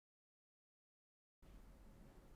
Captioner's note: silence